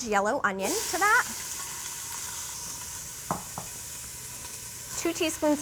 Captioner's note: sizzling